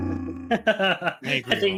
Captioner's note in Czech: sténání